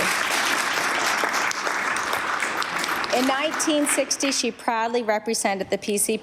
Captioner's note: applause